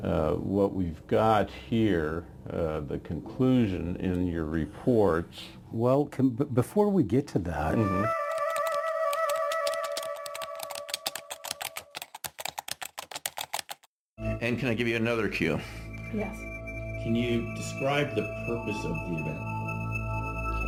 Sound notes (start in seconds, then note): 7.8 eerie music; 8.1 keys typing; 20.4 dramatic music